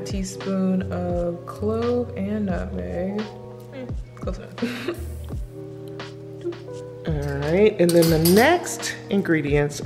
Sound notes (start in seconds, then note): 4.6 chuckles; 6.0 mellow music